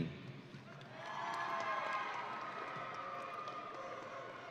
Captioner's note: audience cheering